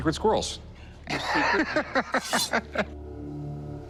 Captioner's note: laughs